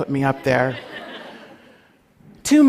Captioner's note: laughter